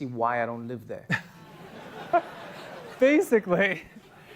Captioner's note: laughter